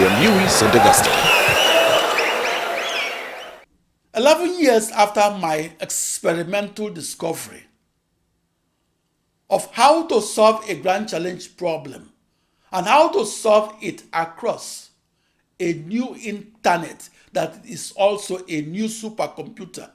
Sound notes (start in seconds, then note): 4.3 wild applause and cheering for 22 seconds